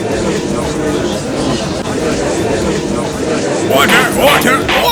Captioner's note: gallery chattering